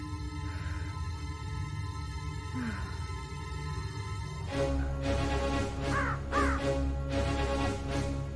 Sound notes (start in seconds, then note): 2.4 sighs; 4.4 military mission music